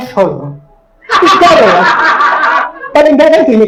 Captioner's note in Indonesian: Audiens tertawa